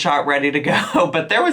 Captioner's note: chuckles